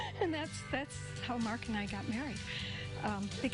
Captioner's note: laughter